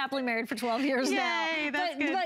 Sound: laughter

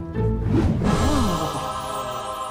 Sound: gasping

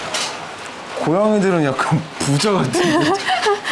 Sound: laughing

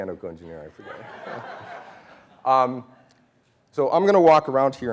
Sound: laughing

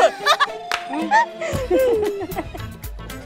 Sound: giggling

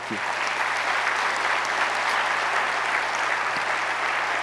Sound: audience applauds

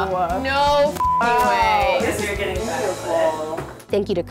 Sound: beep; excited chatter

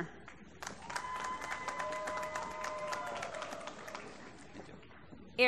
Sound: applause

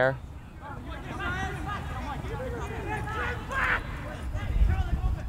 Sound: players talking and yelling

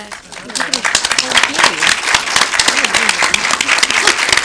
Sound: applause

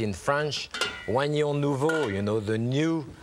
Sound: Jacques speaking in French

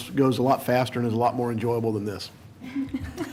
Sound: laughter

